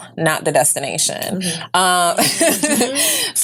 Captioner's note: laughs